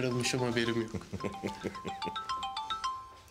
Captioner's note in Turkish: Telefon çalıyor